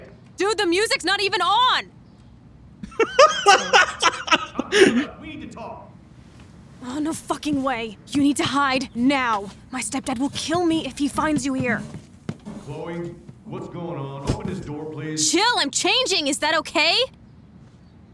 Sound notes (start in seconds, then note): 2.8 laughing